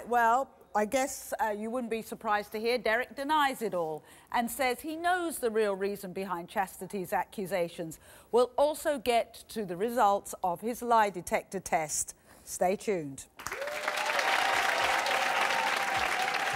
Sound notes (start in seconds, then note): 13.4 audience applause